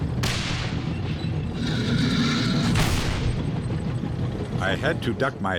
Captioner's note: tank turrets firing; tank engines whirring